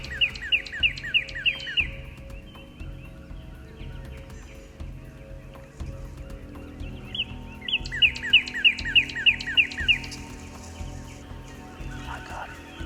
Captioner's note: whispering